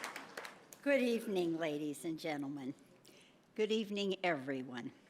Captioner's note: applause